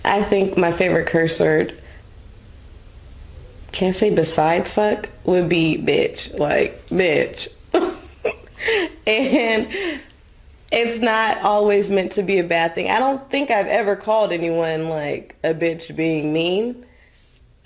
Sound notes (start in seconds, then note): 7.7 laughs